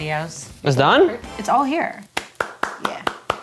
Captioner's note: clapping